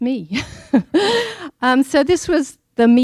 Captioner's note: laughing